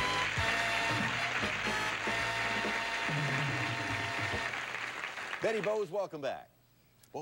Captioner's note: audience applauding